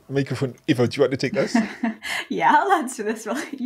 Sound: both laughing

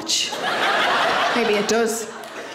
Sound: audience laughs

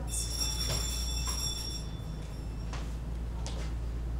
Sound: bell rings

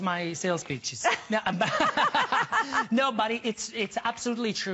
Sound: laughter

